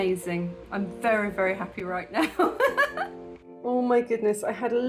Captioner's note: laughing